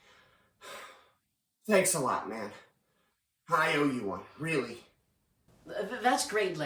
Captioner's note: sighs